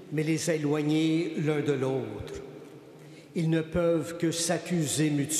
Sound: speaking Alternate Language

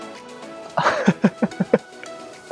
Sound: chuckles

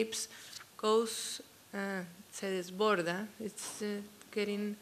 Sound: speaking spanish

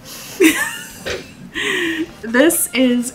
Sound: laughs

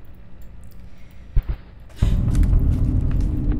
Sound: heavy footsteps

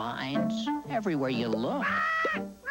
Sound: squawking

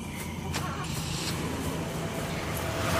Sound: engine starts; tires screeching

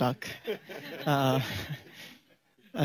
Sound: laughter

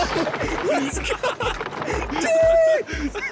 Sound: laughter; squeals

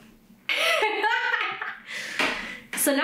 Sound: laughs

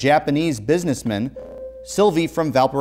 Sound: beeping

